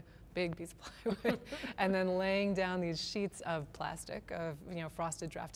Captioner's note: laughter